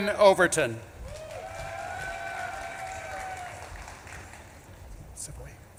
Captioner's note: audience claps and cheers